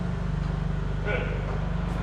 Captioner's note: forklift engine running